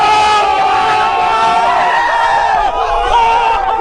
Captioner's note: screaming